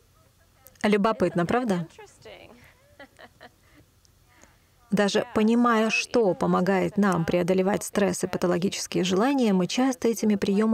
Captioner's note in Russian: смеется